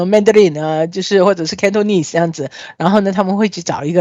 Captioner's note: Cantonese